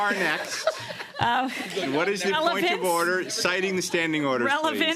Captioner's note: laughter